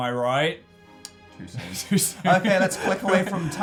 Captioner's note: laughing